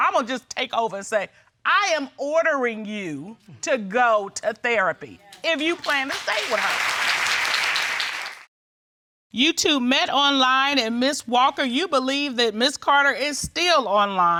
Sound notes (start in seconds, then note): 7.8 audience applauding